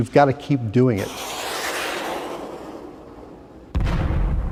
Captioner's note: whooshing; explosion